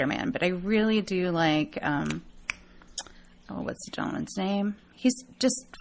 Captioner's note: snaps fingers